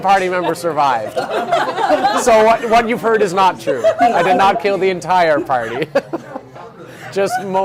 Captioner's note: laughing